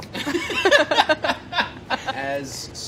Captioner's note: laughing